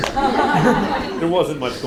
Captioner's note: audience laughs